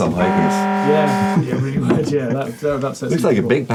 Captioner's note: laughing